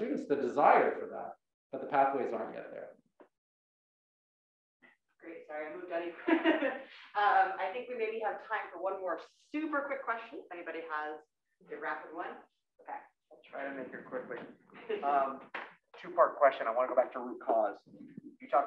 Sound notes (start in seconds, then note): 6.4 laugh